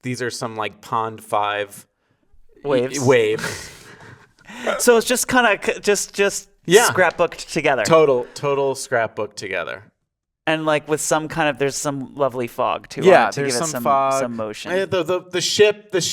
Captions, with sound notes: These are some Pond5- - Waves. - wave. (both laughing) - So it was just scrapbooked together. - Yeah, total scrapbook together. - And there's some lovely fog, too, to give it some motion. - Yeah, there's some fog.